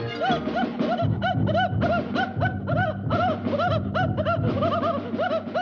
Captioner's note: Daffy whimpering dramatically